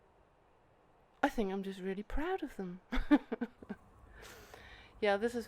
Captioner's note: laughs